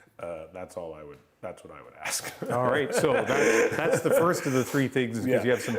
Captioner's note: laughter